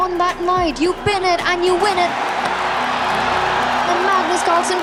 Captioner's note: crowd cheering